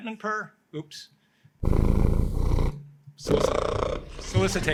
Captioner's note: cat purring